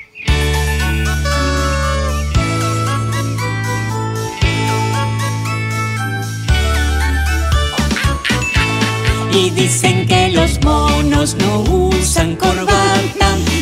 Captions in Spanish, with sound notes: (Música alegre) (Sonido de mono) Y dicen que los monos no usan corbata